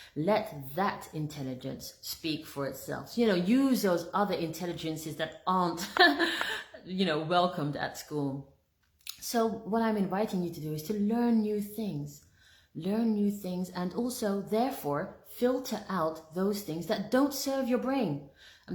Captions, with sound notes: Let that intelligence speak for itself. You know, use those other intelligences that aren't, (laughs) welcomed at school. So what I'm inviting you to do, is to learn new things. Learn new things and also therefore, filter out those things that don't serve your brain. I'm